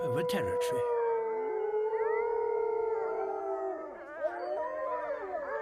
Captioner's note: wolves howling